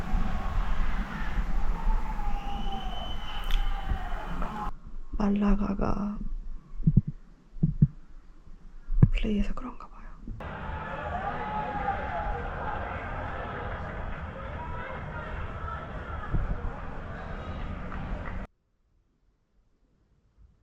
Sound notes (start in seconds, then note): 13.9 horns honking and firecrackers setting off all night long... a truly festive day